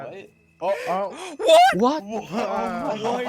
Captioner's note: gasps of shock